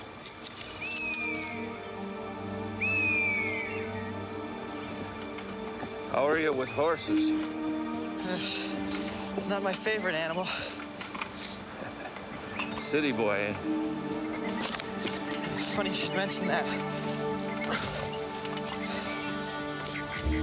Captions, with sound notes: (light dramatic music) (hawk calling) How are you with horses? - Not my favorite animal. - City boy, eh. - Funny you should mention that.